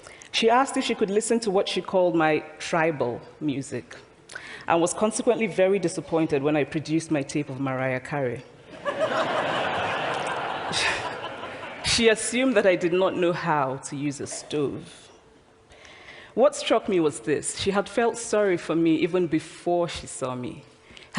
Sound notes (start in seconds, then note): 8.7 laughter